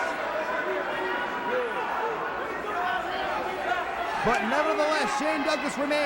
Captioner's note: crowd chatter